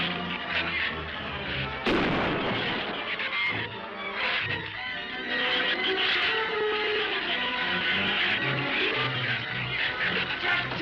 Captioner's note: gunshot